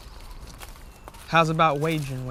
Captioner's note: birds chirp